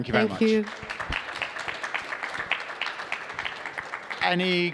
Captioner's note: attendees applauding